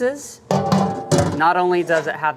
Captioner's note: pot banging